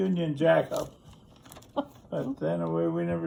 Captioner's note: interviewer laughs